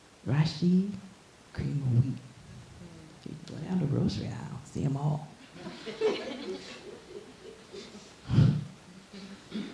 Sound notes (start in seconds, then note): 5.5 laughing